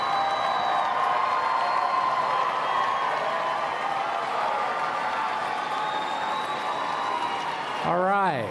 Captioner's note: cheering and Applause